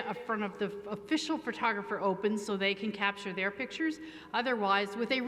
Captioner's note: none